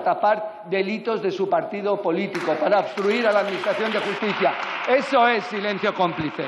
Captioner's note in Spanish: Aplausos